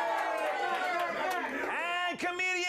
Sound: audience cheering

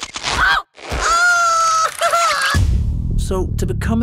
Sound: screams

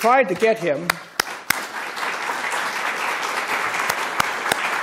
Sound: audience clapping

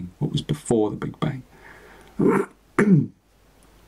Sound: clears his throat

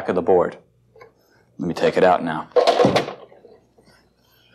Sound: clunk

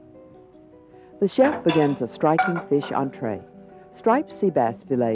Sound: voiceover

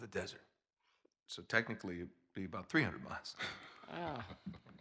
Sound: laugh

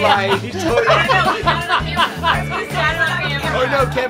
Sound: everyone laughs

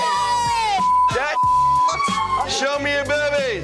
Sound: beep

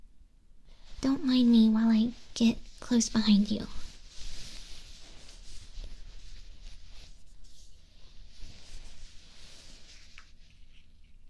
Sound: hands were dry, lotion sounds lol

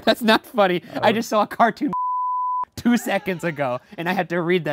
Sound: laughing; beeping

